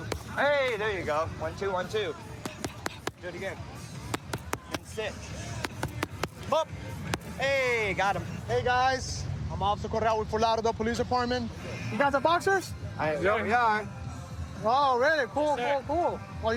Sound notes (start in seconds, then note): none